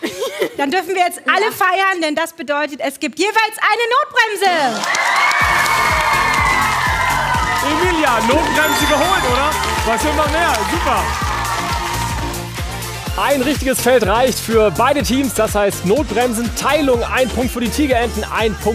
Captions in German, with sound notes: Dann dürfen wir alle feiern, es gibt jeweils eine Notbremse. (Applaus) (Jubel) Emilia, Notbremse geholt, was will man mehr? (Funkige Musik) Ein richtiges Feld reicht für beide Teams. Jedes Team bekommt einen Punkt.